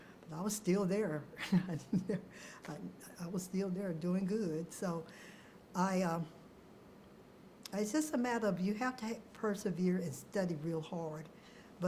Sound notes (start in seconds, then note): 1.4 chuckles